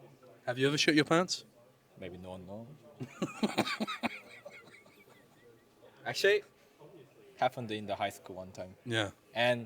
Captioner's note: laughs